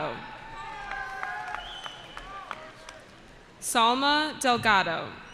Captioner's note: cheering